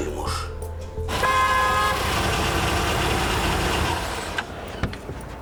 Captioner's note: car engine sounds